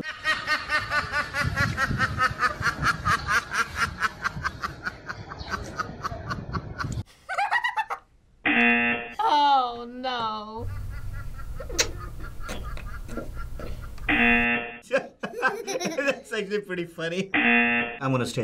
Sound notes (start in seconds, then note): 0.0 duck laughs; 7.4 laughs; 8.5 buzzer rings; 11.9 buzzer rings; 11.9 laughs; 14.8 both laugh; 17.3 buzzer rings